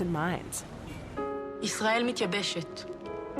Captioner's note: speaking Hebrew